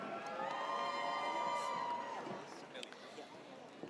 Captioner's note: audience cheers